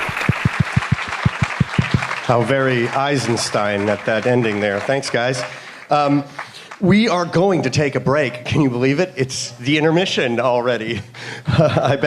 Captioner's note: applause